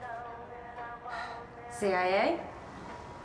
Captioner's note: sighs